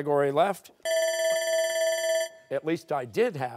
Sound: bell rings

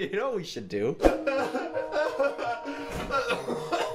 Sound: crying

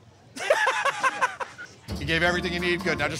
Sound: laughter

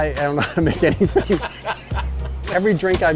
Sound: laughter

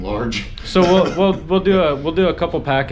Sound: laughs

